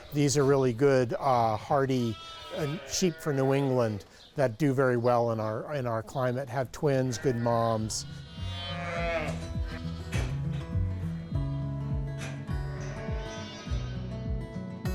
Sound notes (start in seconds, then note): 8.2 gentle music; 8.4 sheep bleating